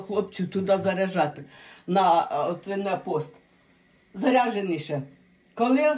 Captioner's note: Ukrainian